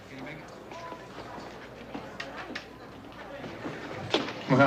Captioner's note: restaurant din